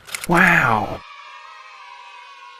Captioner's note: typewriter keys clacking; kids cheering; voiceover